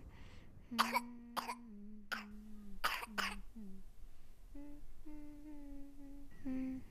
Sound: younger girl coughs as cassie hums

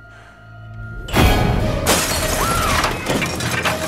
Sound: shattering, screaming

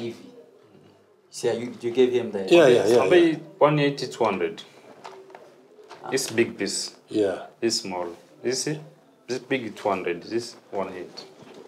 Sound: speaks Swahili

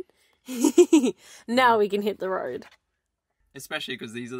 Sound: laughs

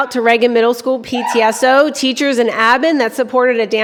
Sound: cheering

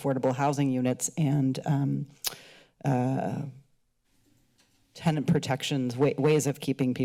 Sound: clicks tongue

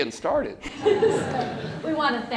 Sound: laughter

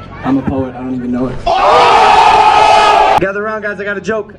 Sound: mulitple people screaming OOH

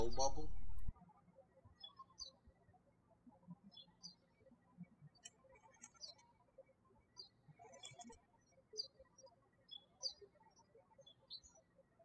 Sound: birds chirping

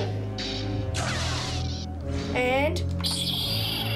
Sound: lightsaber sound effects

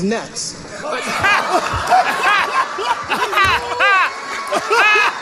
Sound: laughter

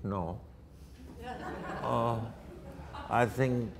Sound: audience laughter

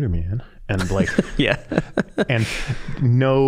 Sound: laughing

